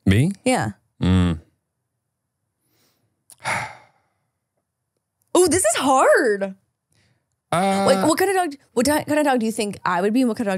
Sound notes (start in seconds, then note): 1.0 sighs